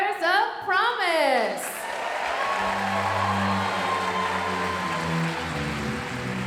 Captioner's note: audience cheering and applauding